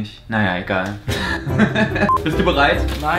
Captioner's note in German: lacht